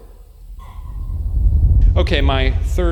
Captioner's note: clicks tongue